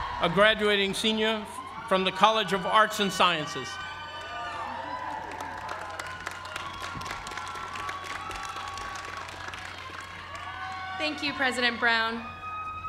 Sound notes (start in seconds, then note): 4.5 applause